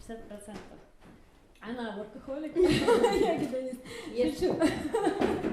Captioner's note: laughs